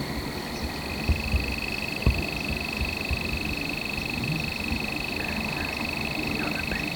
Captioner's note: frogs / insects